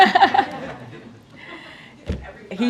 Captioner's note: laughter